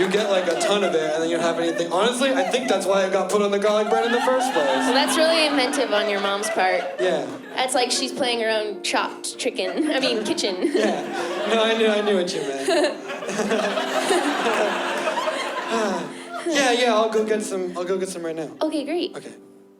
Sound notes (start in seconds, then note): 12.8 nervous laughs